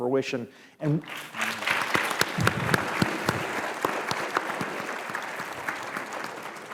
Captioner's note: applause